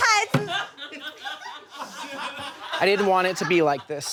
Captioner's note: audience laughs